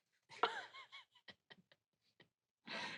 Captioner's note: laugh